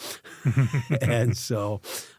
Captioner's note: both Laughing